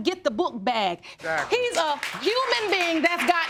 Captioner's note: audience applauding